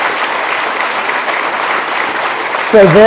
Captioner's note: applause